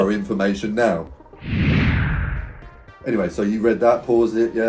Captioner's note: whoosh